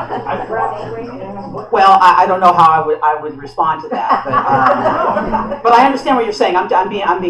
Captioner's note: laughter